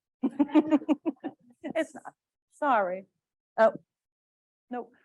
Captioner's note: laughs